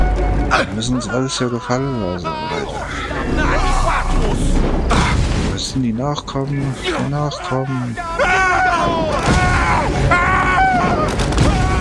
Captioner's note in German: stöhnen; schreien